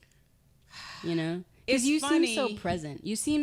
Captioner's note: sighing